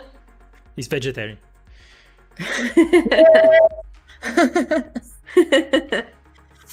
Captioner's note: laughs